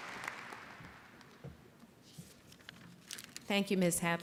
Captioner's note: applause